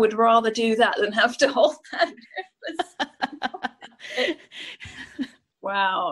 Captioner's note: laughs